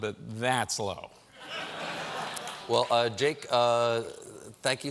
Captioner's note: laughter